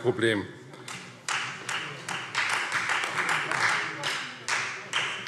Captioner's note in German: Beifall Freie Demokraten